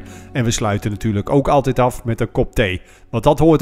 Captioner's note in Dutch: Voiceover